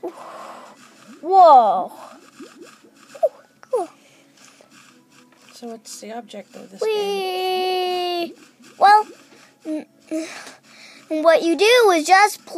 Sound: stuttering

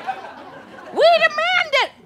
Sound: audience laughter

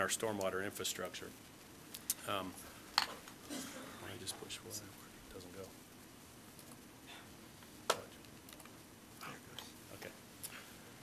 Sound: background conversation

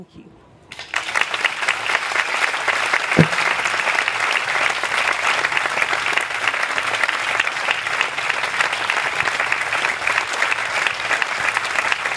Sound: applause

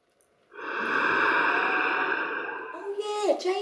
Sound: oxygen mask breathing sound

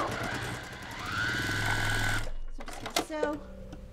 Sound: sewing machine whirring

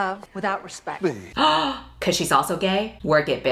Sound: gasps

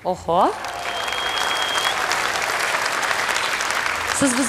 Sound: applause

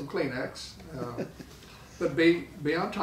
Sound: laughing

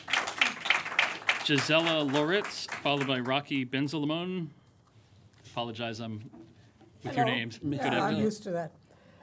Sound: applause

